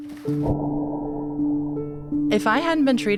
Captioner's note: gentle piano music; pool water splashes